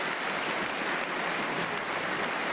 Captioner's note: applause